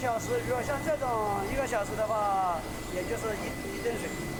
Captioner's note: speaking Chinese